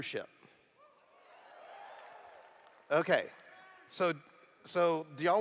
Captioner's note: cheers